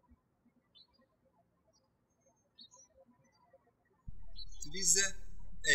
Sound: birds chirping

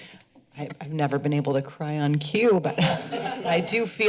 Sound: laughter

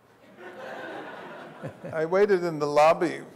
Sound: audience laughs

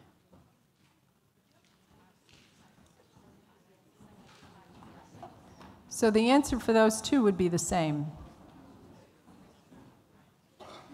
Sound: audience chatter

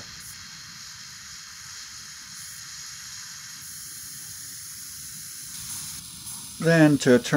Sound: torch sounds

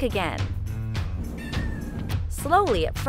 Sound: meowing

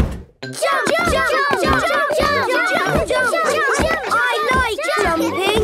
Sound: all shouting "Jump! Jump!"

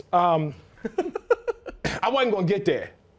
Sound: laughter

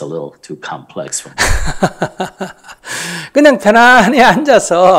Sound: Sunim laughs

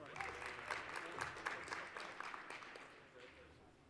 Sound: applause

